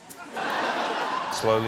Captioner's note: laughter